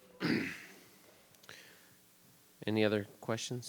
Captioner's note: clears throat